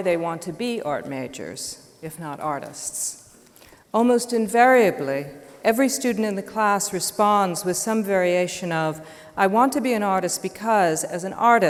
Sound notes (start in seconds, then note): none